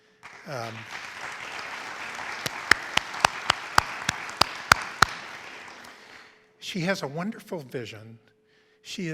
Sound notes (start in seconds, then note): 0.0 audience applauds